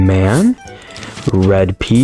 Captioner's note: inhales Oxygen